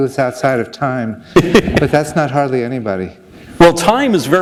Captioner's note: chuckle